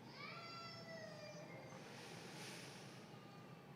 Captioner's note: baby crying